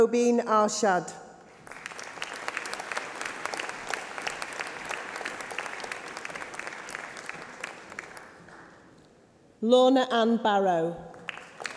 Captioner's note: applause